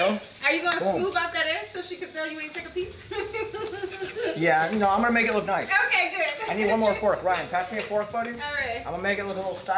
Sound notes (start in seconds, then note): 3.0 laughs